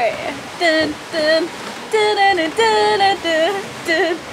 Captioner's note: hums